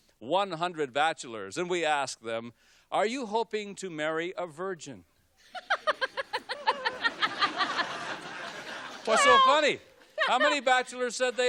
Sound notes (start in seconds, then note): 5.5 laughs; 8.9 audience laughs